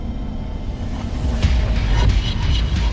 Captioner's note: transition sound; heavy metal music begins playing